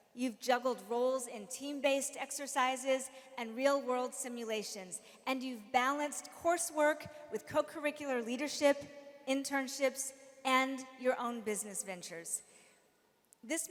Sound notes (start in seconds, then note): none